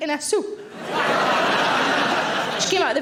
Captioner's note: audience laughing